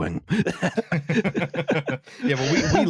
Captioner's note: laughter